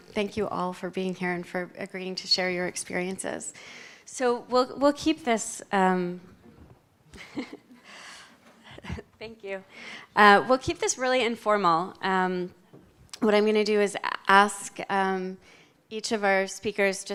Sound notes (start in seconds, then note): 7.1 chuckles